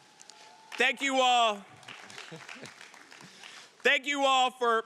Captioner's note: audience applauding